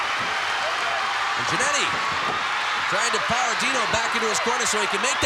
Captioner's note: applause